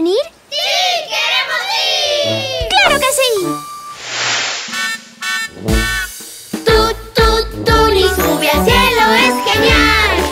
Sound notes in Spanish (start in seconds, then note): 3.4 Sonido de bocina